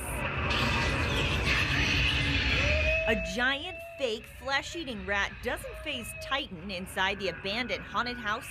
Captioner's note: spooky sound